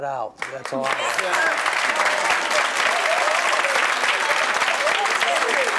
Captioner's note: audience applause